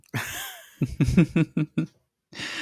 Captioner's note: soft laughter